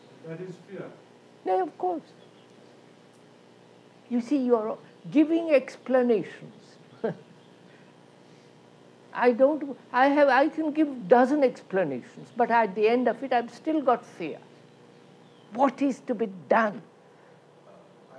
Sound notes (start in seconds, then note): 6.9 laughs